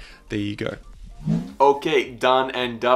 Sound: air whooshing

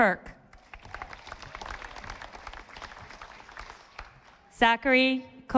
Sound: audience applauding

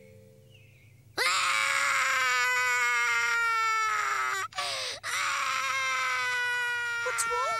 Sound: screaming

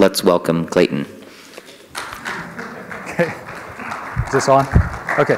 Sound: applause

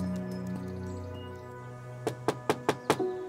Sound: knocks on door

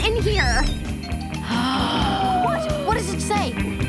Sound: gasping

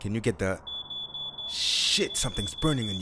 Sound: fire alarm

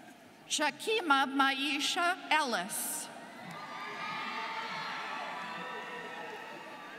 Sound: students cheering

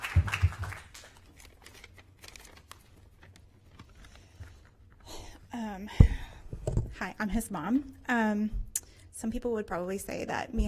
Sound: applause

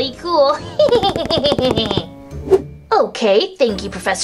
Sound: laughs maniacally

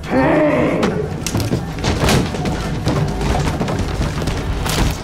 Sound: Woodrow crashes down the stairs; sickening crack

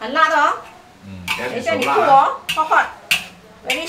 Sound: burning

